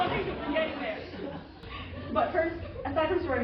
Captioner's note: laughter